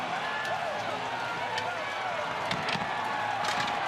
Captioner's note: cheers